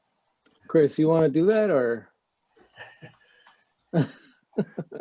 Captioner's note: chuckling